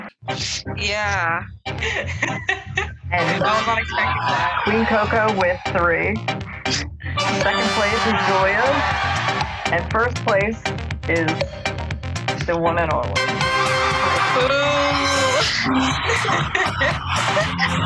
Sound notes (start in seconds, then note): 1.8 laughing